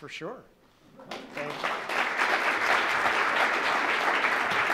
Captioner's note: applause